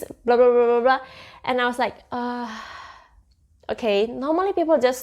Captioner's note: sigh